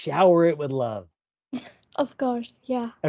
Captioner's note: laughs